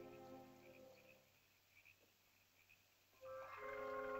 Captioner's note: soft ominous music; frogs croaking; soft ominous music; animal chittering